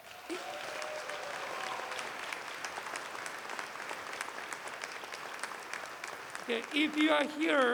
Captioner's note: applause